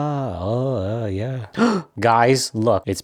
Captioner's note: gasp